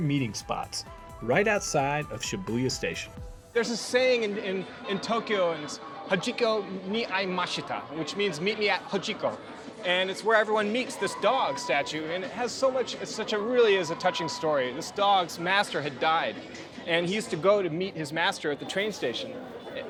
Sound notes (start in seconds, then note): 6.0 speaks Japanese